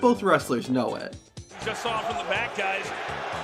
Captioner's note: crowd